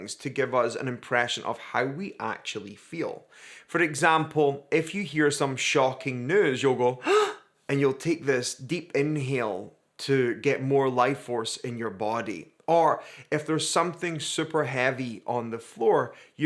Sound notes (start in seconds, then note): 7.0 gasps